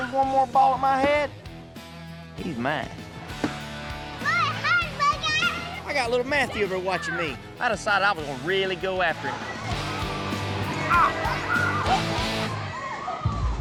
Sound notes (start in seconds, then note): 3.3 ball thuds